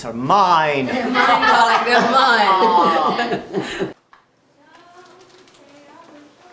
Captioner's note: all laughing